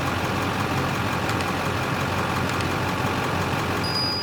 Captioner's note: click; bell Ringing